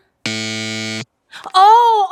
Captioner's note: buzzer buzzes